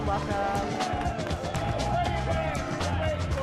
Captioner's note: cheers and applause